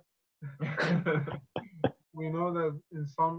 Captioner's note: loud laughter